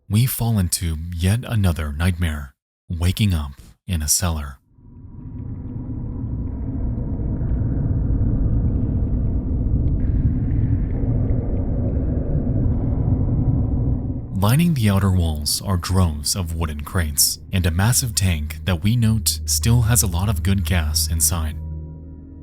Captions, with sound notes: We fall into another nightmare, waking up in a cellar. (eerie music) (liquid gurgling) Lining the outer walls are droves of wooden crates, and a massive tank that we note still has a lot of good gas inside.